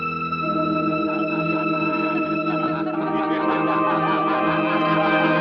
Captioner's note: faint evil chuckling